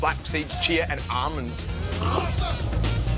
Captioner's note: slurps